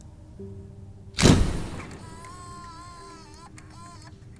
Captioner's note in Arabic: تومض الكاميرا